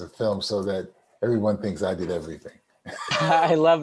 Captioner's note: laughs